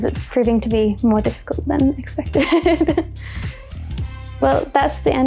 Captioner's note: laughs